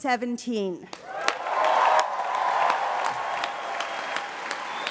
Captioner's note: applause